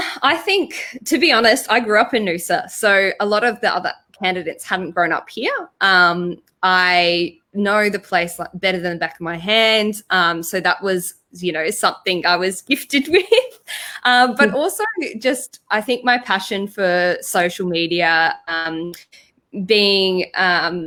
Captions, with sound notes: - I think to be honest, I grew up in Noosa. So a lot of the other candidates haven't grown up here. I know the place better than the back of my hand. So that was something I was gifted with (laughs softly) I think my passion for social media being that I'd immersed